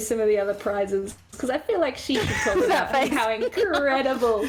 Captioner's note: laugh